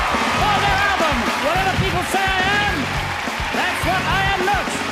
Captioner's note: people cheering